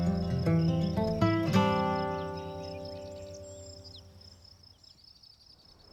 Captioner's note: birds chirping